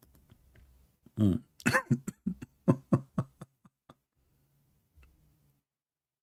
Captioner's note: Ketawa